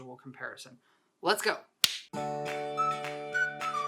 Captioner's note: clap